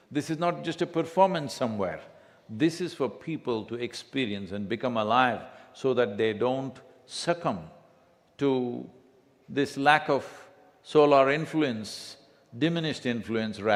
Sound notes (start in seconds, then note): none